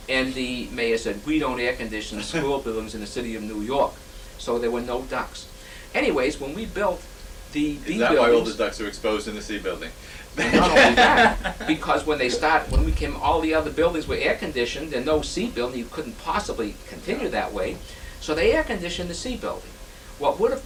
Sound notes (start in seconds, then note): 10.4 laughter